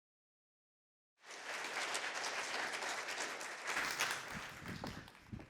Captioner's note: applause